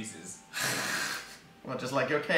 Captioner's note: sigh